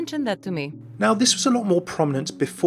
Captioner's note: voiceover